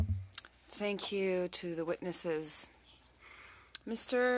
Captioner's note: speaking FRENCH